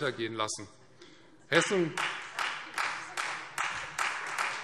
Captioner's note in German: Beifall Freie Demokraten